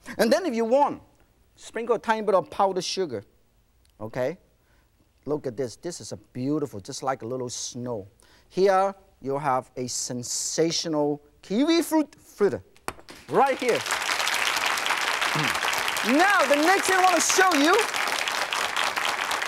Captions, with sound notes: And then if you want, sprinkle a tiny bit of powdered sugar. Okay? Look at this, this is beautiful, just like a little snow. Here, you'll have a sensational kiwifruit fritter. Right here! (applauding) Now, the next thing I wanna show you, is a kiwifruit.